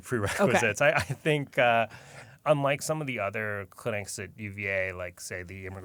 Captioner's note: chuckles